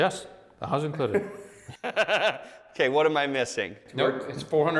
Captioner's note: laughs